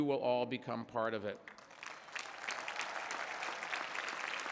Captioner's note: applause